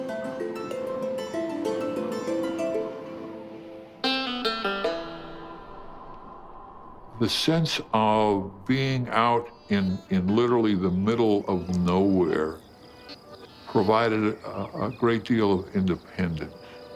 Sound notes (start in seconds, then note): 3.9 wind blowing; 3.9 banjo playing